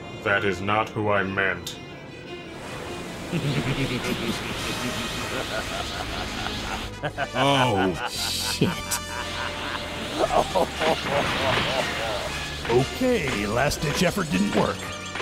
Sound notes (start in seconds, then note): 4.9 evil chuckling; 10.3 evil chuckling